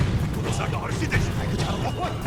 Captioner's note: grunting